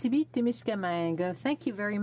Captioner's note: speaking French